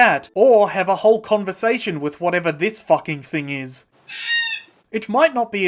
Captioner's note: screaming